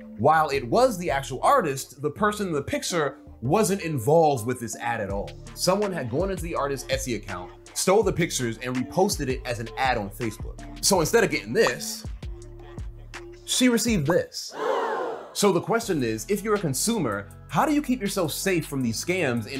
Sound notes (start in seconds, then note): 14.5 voice effect gasping